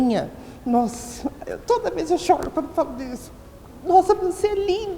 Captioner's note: crying voice